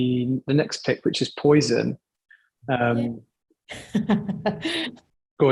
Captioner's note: laughing